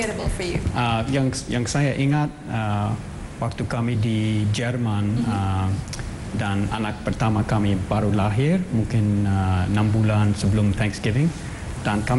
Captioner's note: non-english speech